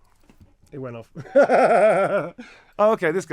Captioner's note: laughs